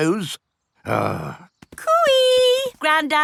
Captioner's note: grumbles